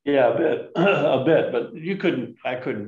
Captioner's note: clears throat